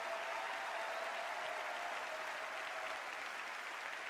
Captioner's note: applause